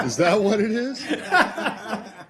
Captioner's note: laughter